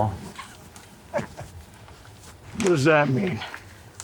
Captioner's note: Anderson chuckling